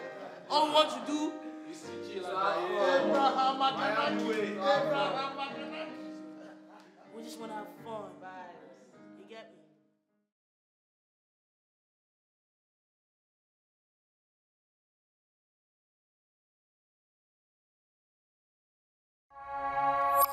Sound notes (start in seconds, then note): 2.9 speaking foreign language